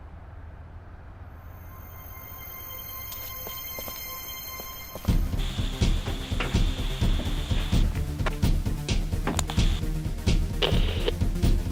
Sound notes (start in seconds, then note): 3.1 fast paced action music continues; 6.9 sound of radio buzzing